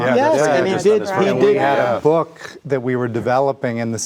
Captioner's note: group chattering